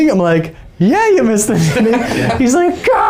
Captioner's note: laughing